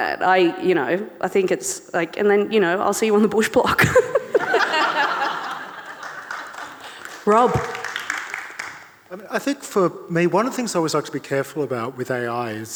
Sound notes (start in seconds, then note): 3.9 laughs; 3.9 audience and panellists laughing; 5.4 audience clapping